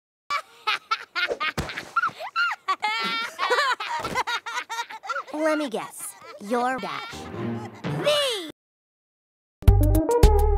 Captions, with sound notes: *Laughter* *Laughter x2* *Laughter x2* Lemme guess... *Laughter* You're Dash THE